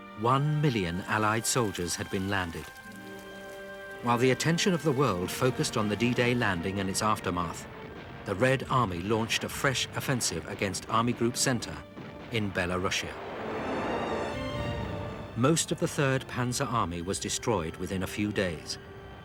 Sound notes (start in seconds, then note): 14.3 tanks rumbling